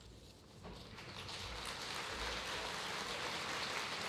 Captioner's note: applause